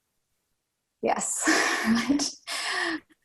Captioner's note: laughs